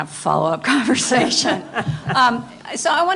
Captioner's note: laughter